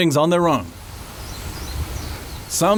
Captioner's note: birds chirping